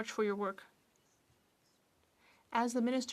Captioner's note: speaking French